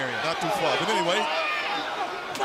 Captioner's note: crowd chatter